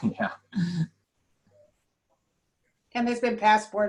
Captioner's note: laughter